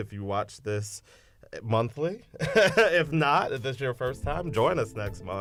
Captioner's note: laughter